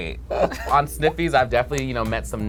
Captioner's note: laughs